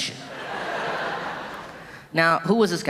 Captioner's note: audience laughing